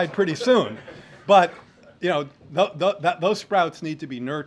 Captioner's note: laughter